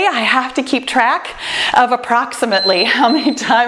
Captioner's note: timer beeps